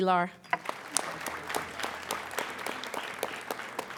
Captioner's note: applauding